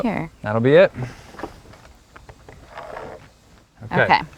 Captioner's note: pencil marring wood